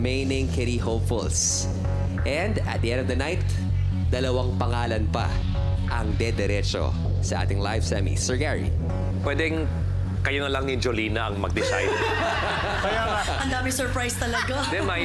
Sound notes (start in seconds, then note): 11.5 robi laughs